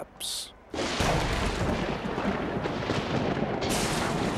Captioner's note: thunder rumbles